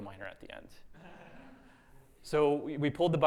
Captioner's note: audience laughing